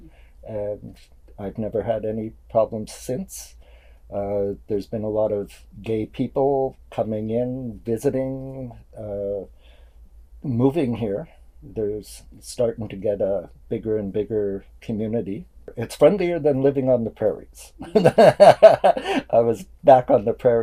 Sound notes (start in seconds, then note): 17.8 laughs